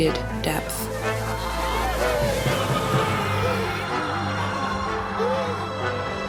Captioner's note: demon screeching; Letitia breathing *acting tf out of the scene